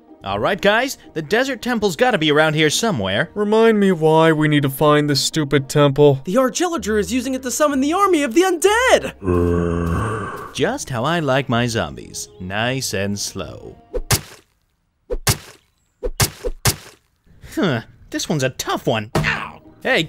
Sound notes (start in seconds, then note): 9.2 zombie groaning; 13.8 smacking